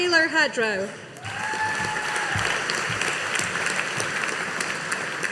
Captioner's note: audience applauding